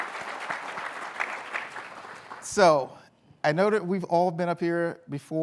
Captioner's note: applause